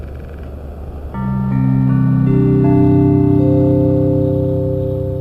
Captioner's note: computer chimes